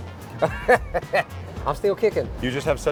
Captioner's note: chuckles